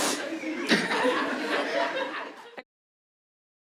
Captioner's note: laughs